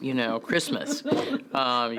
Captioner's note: laugh